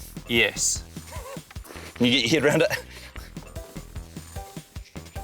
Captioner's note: laughs